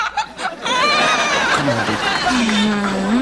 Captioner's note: cries